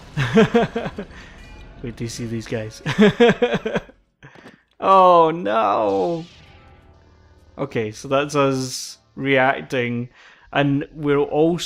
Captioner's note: laughs